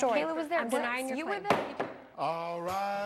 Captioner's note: gavel pounds